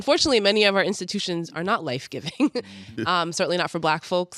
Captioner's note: chuckles